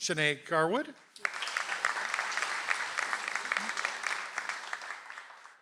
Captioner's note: audience applauds